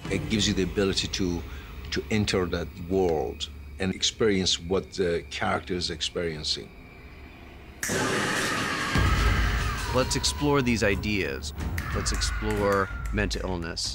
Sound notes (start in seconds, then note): 7.8 screaming